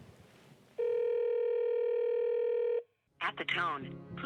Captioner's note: dial tone